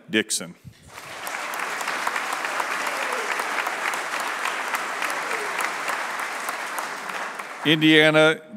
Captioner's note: applause